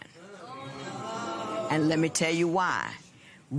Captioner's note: spectators murmur